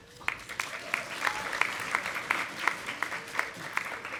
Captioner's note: audience applauding